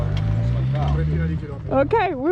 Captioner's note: people speaking Italian